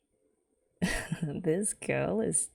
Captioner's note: laughs